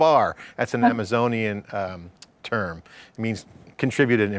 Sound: laughs

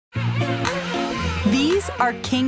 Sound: penguins call

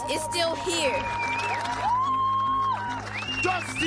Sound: cheering, applause

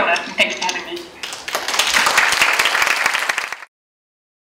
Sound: applause

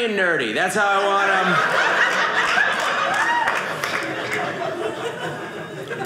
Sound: audience laughing

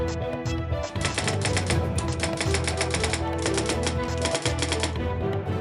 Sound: typewriter keys clacking; upbeat, dark dramatic synthesizer music

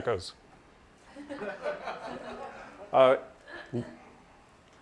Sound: sound echoing; laughter

